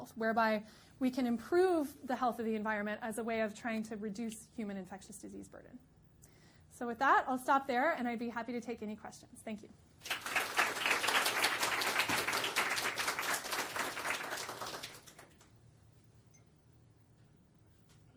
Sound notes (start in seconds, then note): 10.0 audience applauding